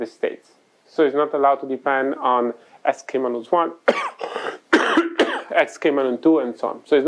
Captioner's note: coughs